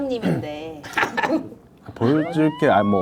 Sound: chuckle

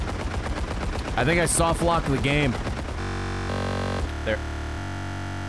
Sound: game crashing noises

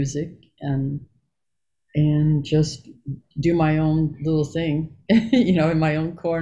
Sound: giggles

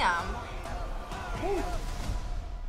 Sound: crowd

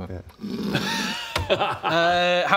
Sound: snores

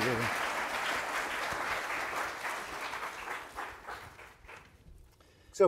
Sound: audience applauding

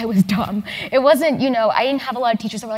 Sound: laugh

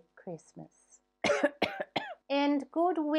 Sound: coughing

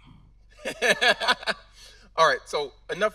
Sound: laughing

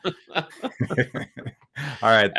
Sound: both laughing

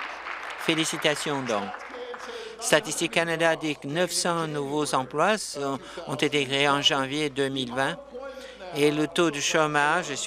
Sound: applause

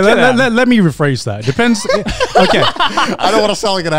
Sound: co-hosts laugh

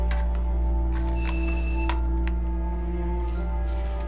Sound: doorbell

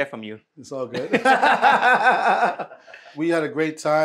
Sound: both laughing

